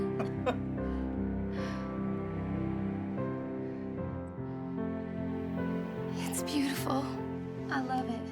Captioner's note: laughter